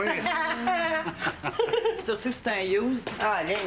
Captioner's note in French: Rires